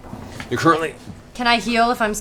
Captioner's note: grunts